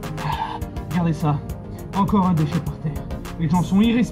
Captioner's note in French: Soupir